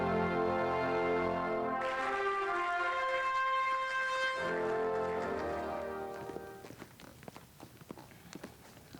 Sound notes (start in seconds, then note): 4.3 audience applauding; 5.5 instrumental music